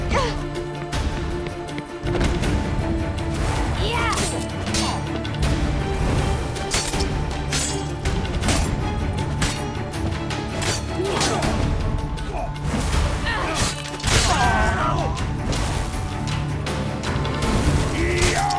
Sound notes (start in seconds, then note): 14.2 grunt; 15.2 cries out